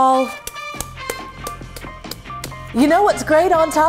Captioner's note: smacking sounds